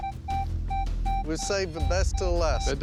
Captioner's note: beeping